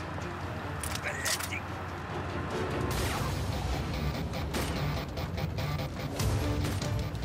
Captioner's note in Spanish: ruido del vehículo